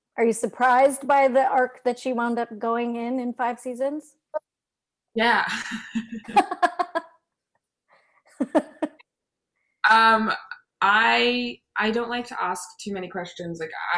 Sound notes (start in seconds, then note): 6.0 laughter